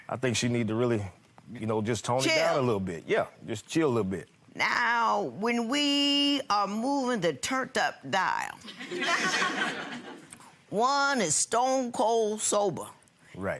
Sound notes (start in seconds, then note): 8.8 audience laughing